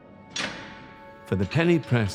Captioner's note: gate clinking